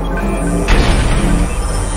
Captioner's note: door slams open